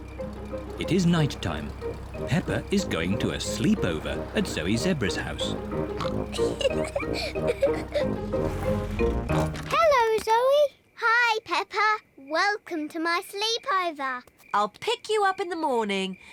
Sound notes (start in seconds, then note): 5.8 oinks and giggles; 9.3 oinks